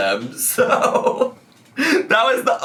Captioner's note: laughs